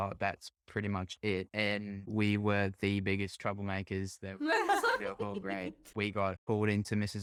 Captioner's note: laughter